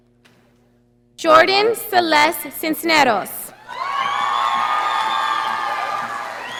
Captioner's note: audience applauding